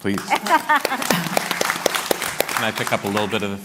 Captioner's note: applause